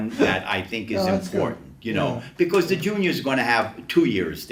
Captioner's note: chuckles